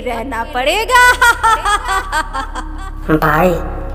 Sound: sarcastic laugh

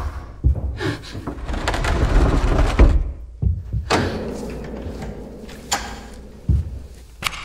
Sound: objects shuffling; lady gasping and whimpering

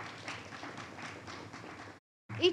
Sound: audience applauds

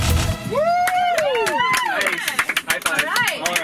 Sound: cheering

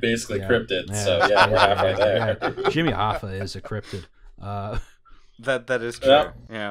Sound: laughter

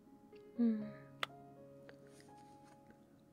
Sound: kiss

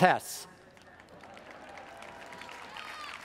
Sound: audience applauds; audience cheers

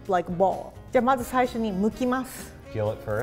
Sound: speaks in foreign language

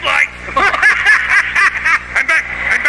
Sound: both laugh

